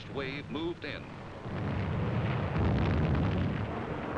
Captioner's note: sounds of explosions